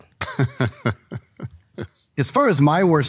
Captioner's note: laughs